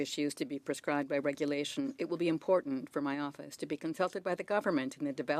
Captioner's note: speaking French